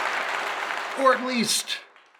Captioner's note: cheers and applause